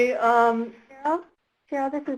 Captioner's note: voiceover